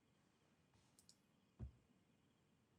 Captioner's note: clicks